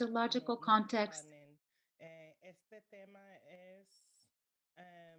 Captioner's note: speaking spanish